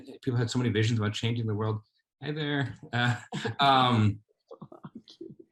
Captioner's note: laughs